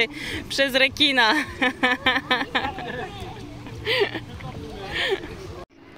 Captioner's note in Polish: śmiech